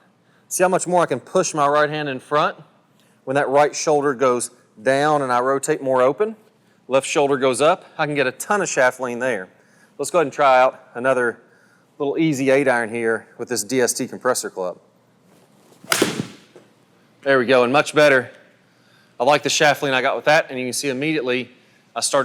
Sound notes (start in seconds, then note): 15.8 golf ball clacking; 17.3 voiceover